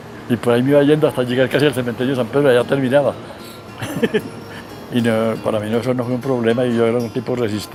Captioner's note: giggles